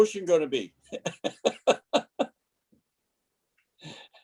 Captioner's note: laughing